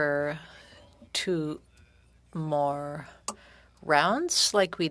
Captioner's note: speaking French